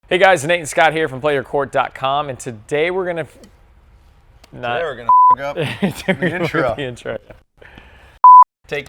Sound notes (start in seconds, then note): 5.1 beep; 5.6 laughing